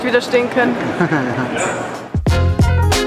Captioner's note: laughs